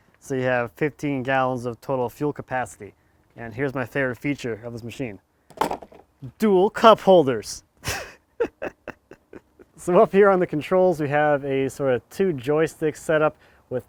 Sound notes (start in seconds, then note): 7.8 laughs